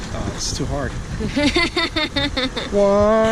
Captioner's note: laughing